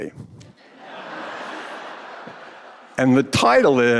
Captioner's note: audience laughing